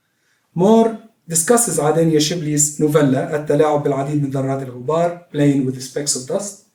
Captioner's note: non-english speech